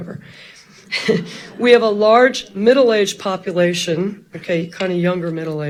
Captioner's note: chuckles